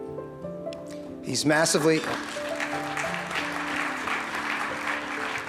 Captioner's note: audience applauds